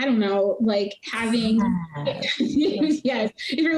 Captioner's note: laughing